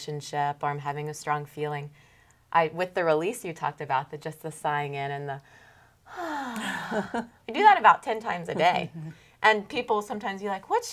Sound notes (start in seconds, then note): 6.0 deep sighs